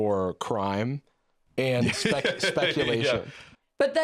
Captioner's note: laughing